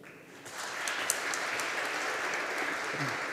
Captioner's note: audience applauding